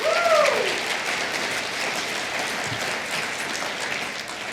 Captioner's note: applause